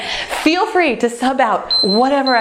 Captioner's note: timer beeps